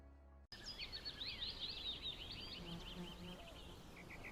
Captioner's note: birds chirping